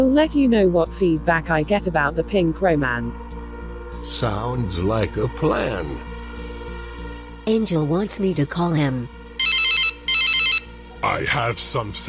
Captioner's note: phone rings